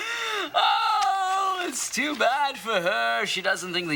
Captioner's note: laughs; exclaims